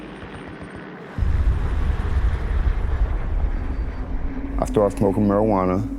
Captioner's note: plane engines revving; gunfire